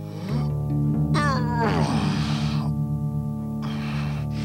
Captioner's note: Groden grunts